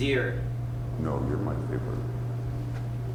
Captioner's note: voiceover